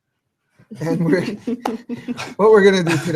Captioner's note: laughing